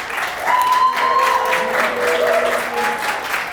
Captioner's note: applause